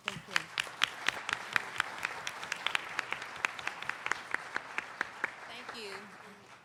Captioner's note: applauding